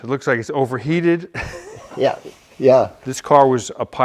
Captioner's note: bewildered laughter